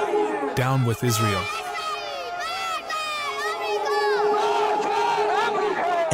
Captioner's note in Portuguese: falando persa